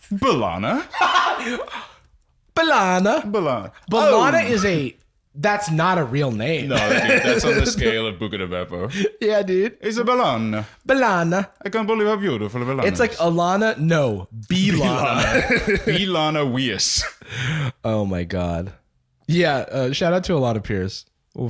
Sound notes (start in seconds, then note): 0.8 laughing; 9.6 Italian accent